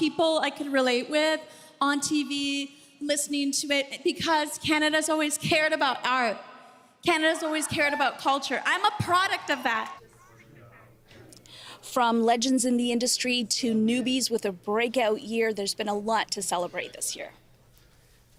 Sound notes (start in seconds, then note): none